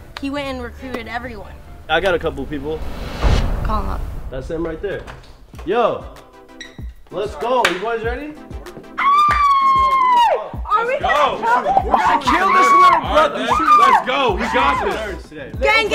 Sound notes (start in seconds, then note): 8.9 screaming